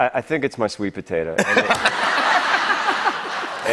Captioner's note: laughter